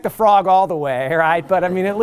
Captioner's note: laughter